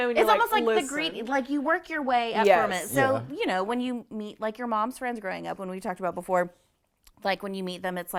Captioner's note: none